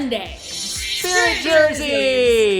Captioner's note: chimes